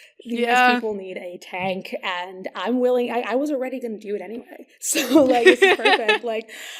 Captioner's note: laughing; laughs